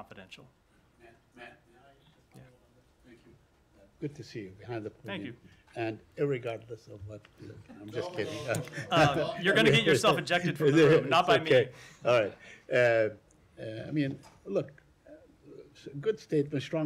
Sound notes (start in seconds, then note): 8.3 laughter